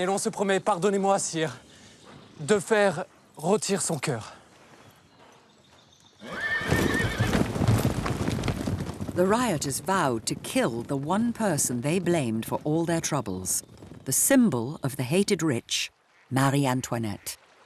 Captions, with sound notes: (horse whinnies) (hooves thudding) The rioters vowed to kill the one person they blamed for all their troubles. The symbol of the hated rich Marie Antoinette.